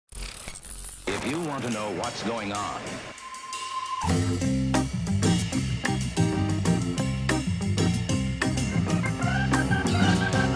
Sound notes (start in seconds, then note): 0.1 static buzzing; 4.0 bright jazzy music